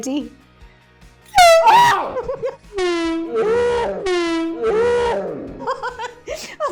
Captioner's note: horn; screams; laughing